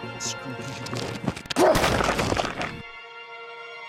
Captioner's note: bang